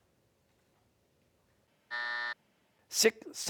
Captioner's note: buzzer